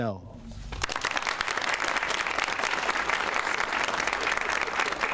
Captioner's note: audience applauds